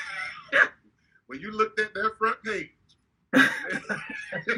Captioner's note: laughing; laughing